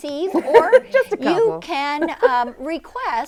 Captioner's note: laughs